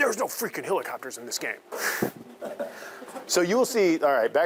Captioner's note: chuckling; students laughing